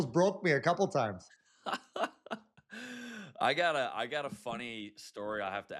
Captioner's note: laughs